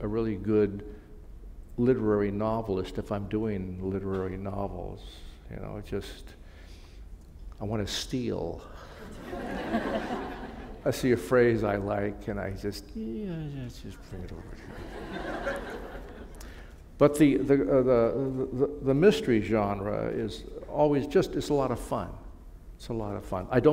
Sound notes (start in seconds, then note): 8.9 laughter